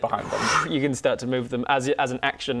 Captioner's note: whoosh